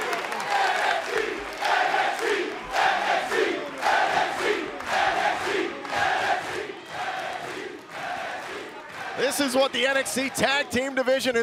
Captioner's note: crowd cheering